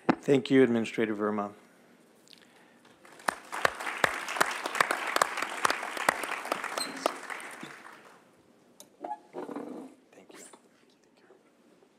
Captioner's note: applause